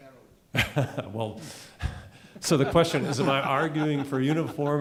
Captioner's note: chuckling